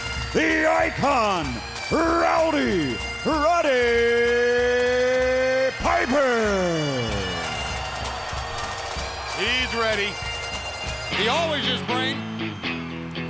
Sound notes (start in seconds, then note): 10.2 crowd cheering